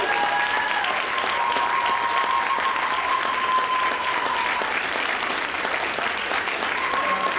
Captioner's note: audience applauds